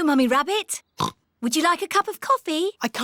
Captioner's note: oinks